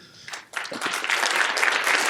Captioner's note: applause